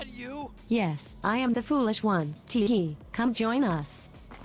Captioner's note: text to speech voice